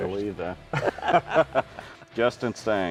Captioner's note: both chuckling